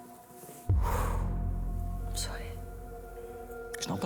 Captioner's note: deep sigh